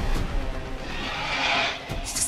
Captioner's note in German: Drachengeräusche